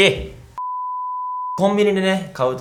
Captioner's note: beep